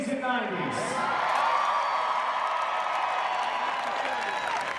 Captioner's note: crowd cheering